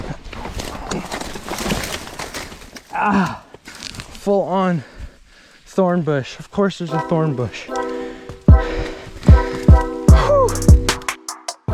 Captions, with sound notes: (groaning) - Full on thorn bush. Of course there's a thorn bush. (upbeat music)